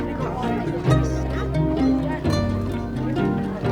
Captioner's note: kids mumbling